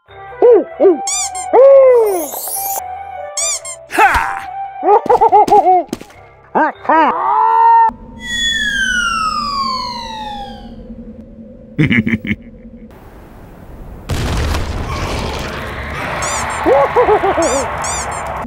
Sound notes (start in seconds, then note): 1.0 squeak; 3.3 squeak; 3.9 Sniper grumbles; 4.8 Pyro laughs happily; 11.8 Sniper snickers; 13.0 explosion; 14.1 otherworldly screams and fire cracking sounds; 16.2 squeak; 16.2 Pyro laughs as the ducks squeaks again and again :3